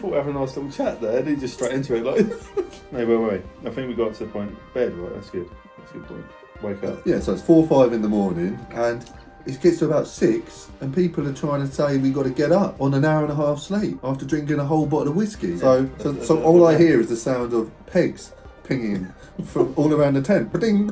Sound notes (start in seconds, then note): 1.8 laughs